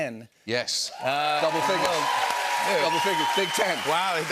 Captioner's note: cheers and applause